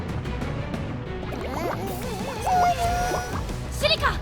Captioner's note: whimpering